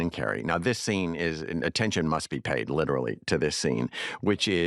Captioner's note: none